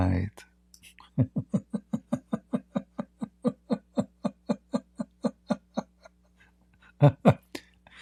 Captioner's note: Ketawa